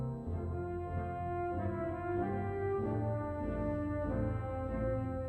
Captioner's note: none